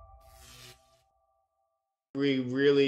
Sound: electricity sparking

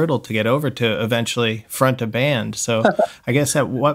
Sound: laughter

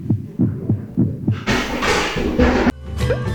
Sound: crashing!!!

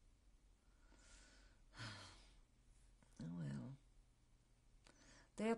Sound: pauses for 3 seconds; sighs

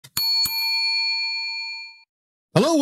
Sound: bell dings

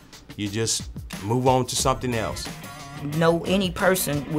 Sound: none

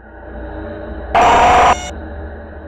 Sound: low-Pitched Screech

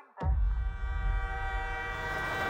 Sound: train horn blaring

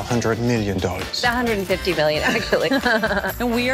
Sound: laughs

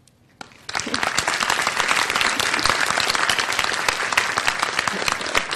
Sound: audience applause

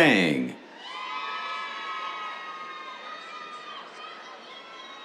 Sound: cheers

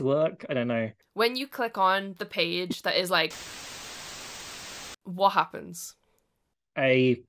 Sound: static

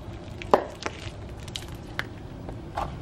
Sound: crackling noise

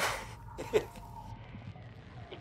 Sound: laughing

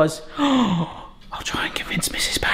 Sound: gasps

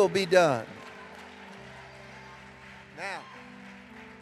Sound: congregation cheering and applauding

